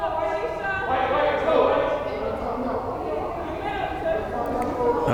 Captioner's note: crowd chattering and yelling